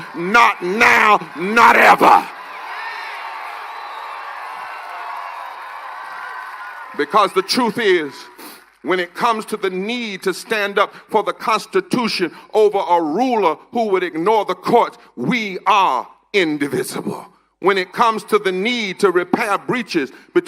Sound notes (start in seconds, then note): 10.2 cheers and applause